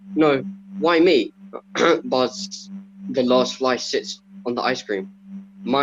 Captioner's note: coughs